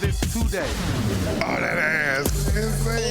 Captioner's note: thumping dance music; dramatic whooshes